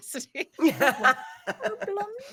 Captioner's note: cast laughing